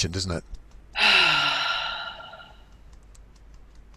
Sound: sighs; fingers tapping softly

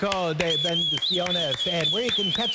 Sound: applause

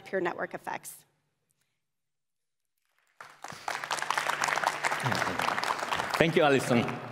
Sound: applause

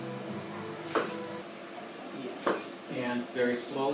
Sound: camera snapping

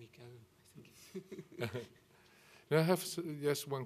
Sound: both chuckling

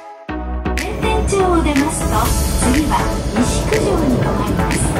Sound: train station announcement

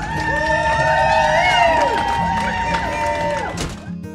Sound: cheering

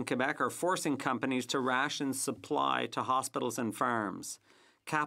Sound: speaking French

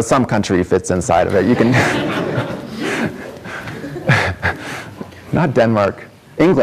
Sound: audience laughs

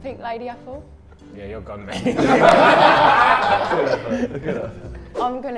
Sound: Sidemen laugh

